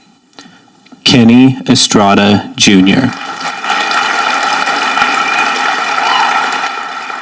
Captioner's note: audience applauding